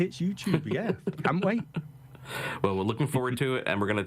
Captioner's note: laughing